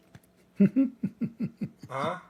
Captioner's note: Ketawa